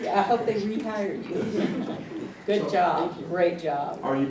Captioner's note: laugh